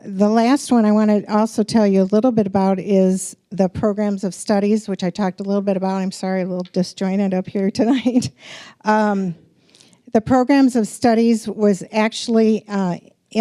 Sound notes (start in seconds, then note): 7.9 chuckling